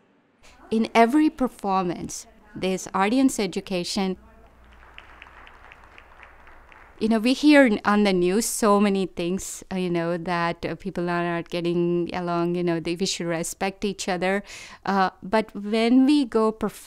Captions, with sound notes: In every performance, there's audience education. (audience clapping) we hear on the news so many things, that people are not getting along, they disrespect each other, but when we go perform